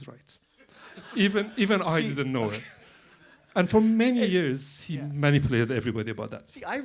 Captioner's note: laughter